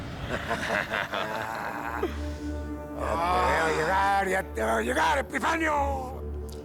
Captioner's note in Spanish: Risas